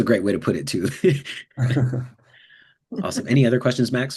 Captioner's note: chuckles